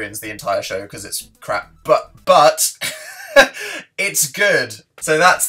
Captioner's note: laughs